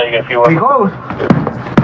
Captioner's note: spepeakaking g spspanis